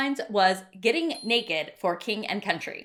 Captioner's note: bell dinging